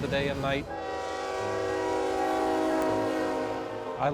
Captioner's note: train horn blaring